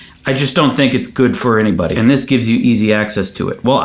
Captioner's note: none